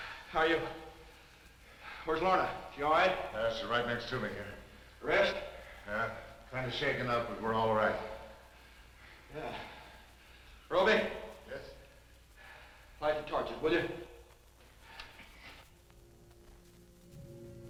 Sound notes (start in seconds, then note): 9.0 sighs